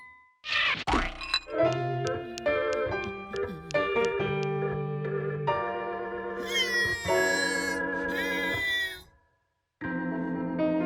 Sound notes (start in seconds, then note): 1.5 gentle music; 6.7 grunting